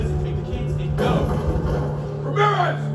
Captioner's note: sound of door being broken down